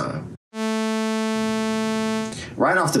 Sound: bass buzzing

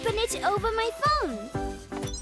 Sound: beeping

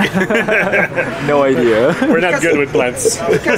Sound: laughing

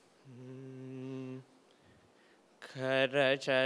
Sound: chanting

